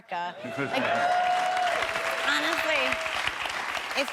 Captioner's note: audience applauds